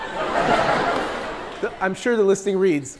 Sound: people laughing

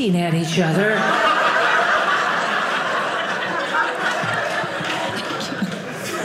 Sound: audience laughing

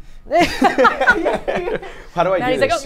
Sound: all laugh

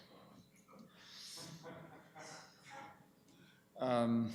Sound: laughter

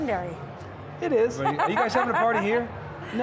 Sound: laughing

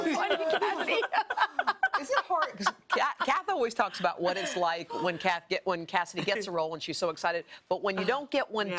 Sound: laughter

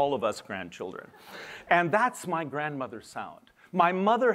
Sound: laughter

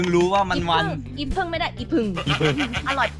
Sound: laughing

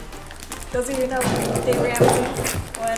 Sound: speaking faintly

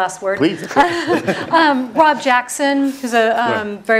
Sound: laugh

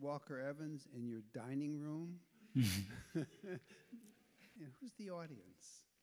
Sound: chuckles

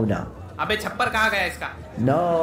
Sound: non-english speech

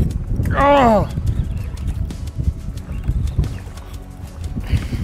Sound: grunting

